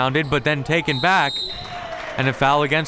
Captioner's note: whistle tweeting